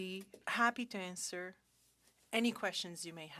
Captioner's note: speaking French